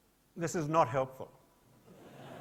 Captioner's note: laughter